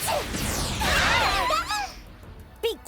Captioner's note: all yelping